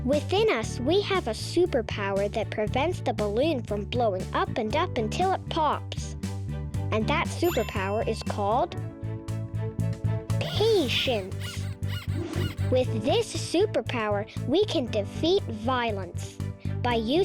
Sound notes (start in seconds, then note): 7.4 check mark rings; 10.4 rabbit squeaking